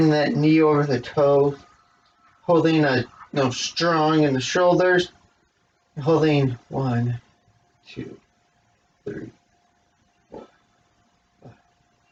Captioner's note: whisper counts